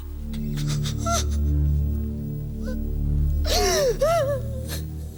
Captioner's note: Jodie whimpering